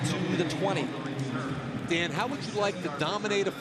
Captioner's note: pa announcement